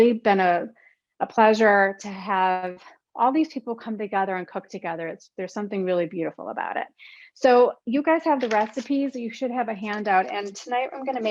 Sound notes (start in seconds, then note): none